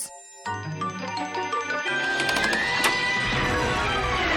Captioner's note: clicking